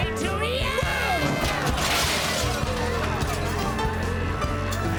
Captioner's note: crash